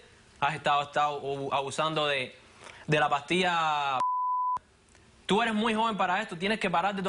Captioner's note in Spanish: Bip